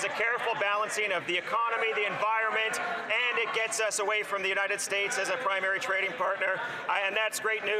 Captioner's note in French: voix de l'interprète